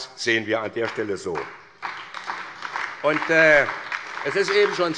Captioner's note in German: Beifall bei Abgeordneten der SPD und bei der LINKEN